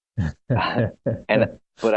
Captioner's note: laughs